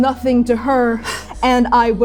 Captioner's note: gasping, breathing; panting, lunging